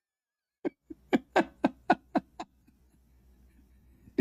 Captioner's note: Ketawa